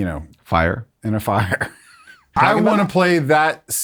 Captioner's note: chuckles